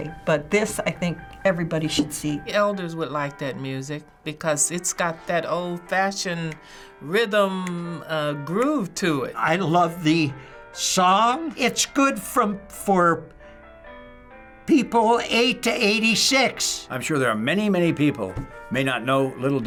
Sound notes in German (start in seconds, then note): none